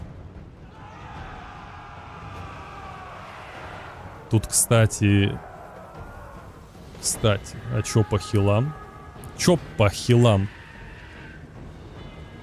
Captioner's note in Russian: крик